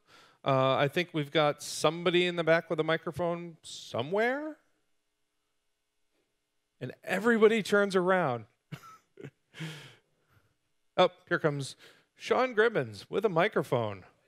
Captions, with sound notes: I think we have somebody in the back with a microphone somewhere. Everybody turns around. [Laughing] Here comes Sean Gribbin with a microphone.